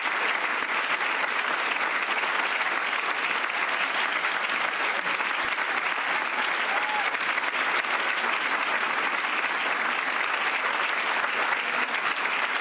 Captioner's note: cheers and applause